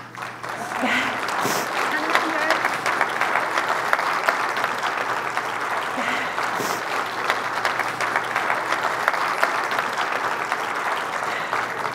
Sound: applause

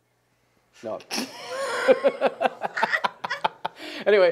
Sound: laughing

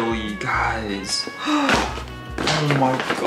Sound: gasps

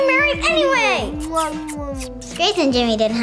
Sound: kiss, kiss

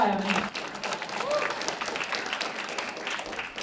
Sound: applause

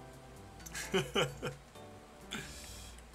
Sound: chuckles nervously

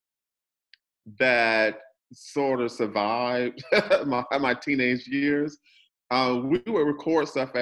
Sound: laughs loudly

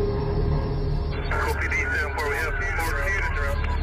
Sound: unsettling music; police radio chatter

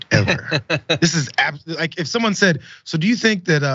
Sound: laugh

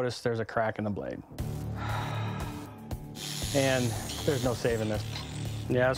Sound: sigh

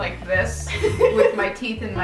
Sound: laughing

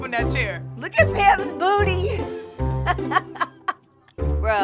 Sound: laughing

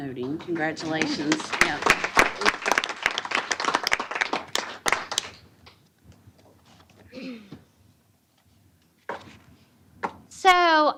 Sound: applause

